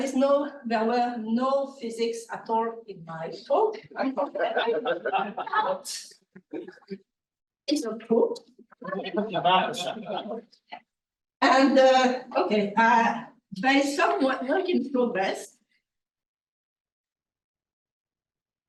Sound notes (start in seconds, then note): 3.8 laughing; 8.7 group chattering